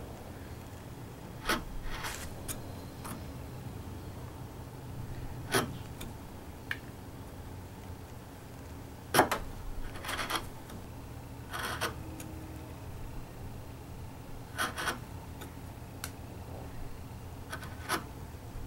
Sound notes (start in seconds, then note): 1.4 wood scraping